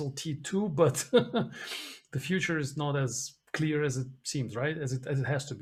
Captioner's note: laughs